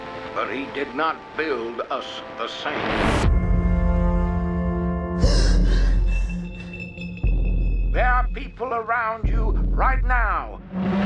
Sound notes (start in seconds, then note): 5.2 Maya gasps